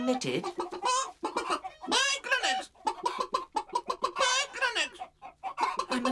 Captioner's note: clucking